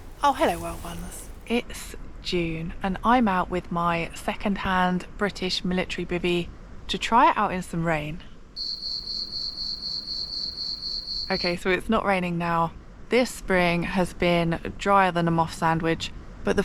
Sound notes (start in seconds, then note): 8.6 crickets